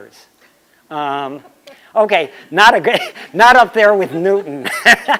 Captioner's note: laughter